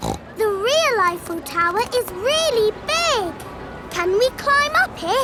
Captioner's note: snorts